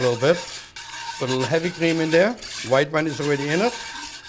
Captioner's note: whisking